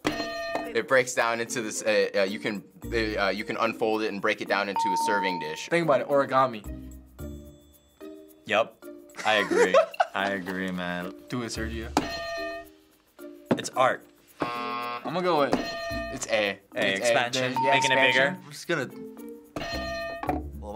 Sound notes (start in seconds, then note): 0.1 hitting bell; 4.8 ding; 12.1 hitting bell; 14.4 buzzer; 17.4 hitting bell